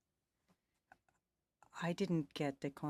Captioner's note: speaking French